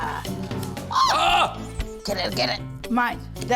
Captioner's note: both yelp